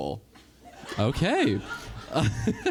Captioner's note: event host laughs